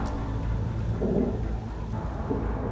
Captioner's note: thunder rumbles